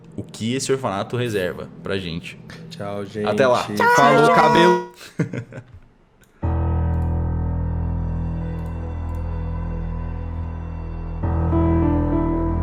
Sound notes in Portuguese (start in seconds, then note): 3.8 Risada